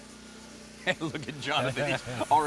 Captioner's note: rhythmic electronic music; laughs